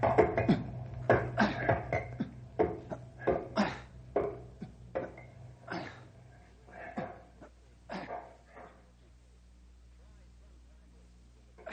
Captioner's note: coughing